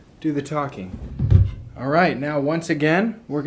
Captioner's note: thuds